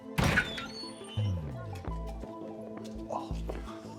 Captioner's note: door squeaks